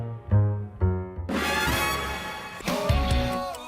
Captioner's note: crowd cheering